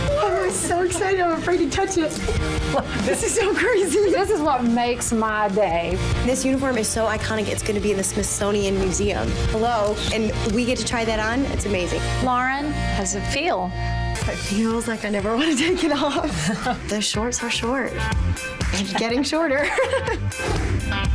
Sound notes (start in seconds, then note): 2.5 laughing; 15.4 laughing; 18.6 laughs; 20.9 energetic music